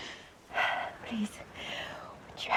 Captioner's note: breathes deeply